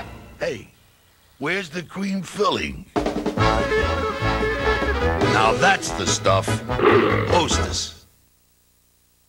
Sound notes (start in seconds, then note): 6.8 growls